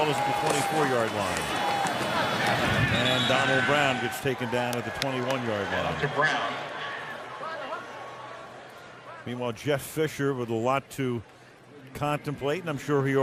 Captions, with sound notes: The ball is at the 24-yard line. And Donald Brown gets taken down at the 21-yard line. [pa announcement] Meanwhile, Jeff Fisher with a lot to contemplate.